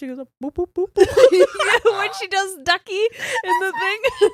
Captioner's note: both laughs